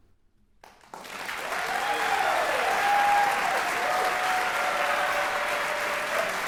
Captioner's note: audience applauding and cheering